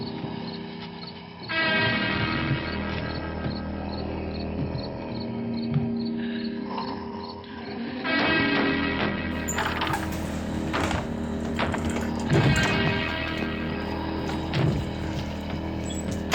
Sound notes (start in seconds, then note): 4.0 crickets chirping; 4.0 suspenseful music; 9.3 door screeching; 12.3 suspenseful music continues